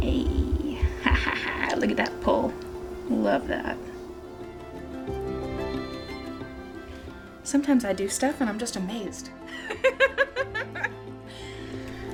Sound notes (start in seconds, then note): 4.2 bright music continues; 9.5 laughing